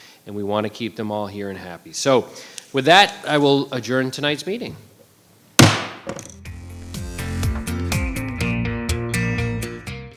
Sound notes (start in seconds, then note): 5.6 gavel banging; 6.4 bright upbeat music